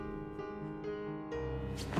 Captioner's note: none